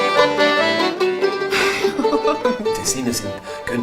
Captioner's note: laughs